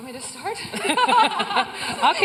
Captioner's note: everyone laughing